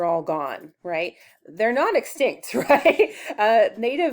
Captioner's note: chuckles